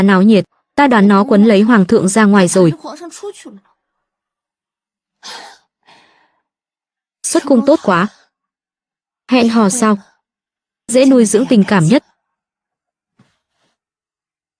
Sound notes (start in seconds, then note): 5.2 thở dài